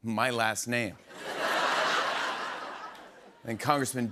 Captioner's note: laughter